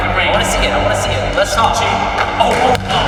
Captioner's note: chattering